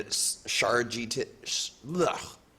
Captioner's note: mumbles